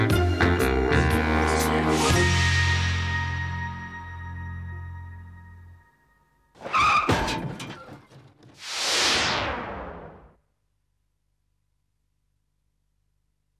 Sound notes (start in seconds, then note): 6.6 tires screech; 6.6 loud bang